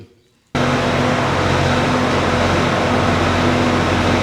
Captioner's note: engine revving